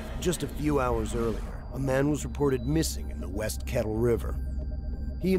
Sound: voiceover

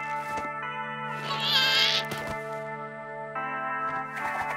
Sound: straining

